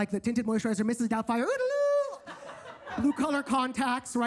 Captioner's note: Percy speaks gibberish